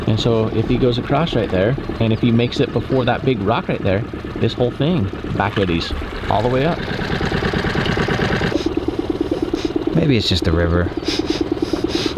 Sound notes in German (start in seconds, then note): 7.1 Motor klappert